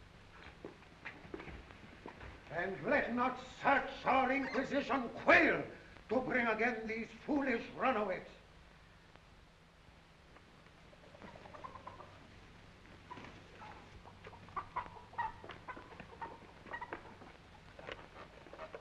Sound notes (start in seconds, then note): 11.2 chickens clucking